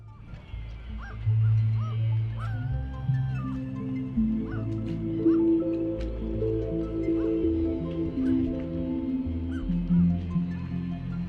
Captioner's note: seagull noises over soft music